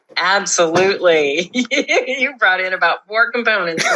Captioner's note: laugh